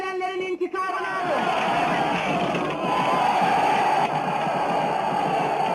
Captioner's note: soldiers cheering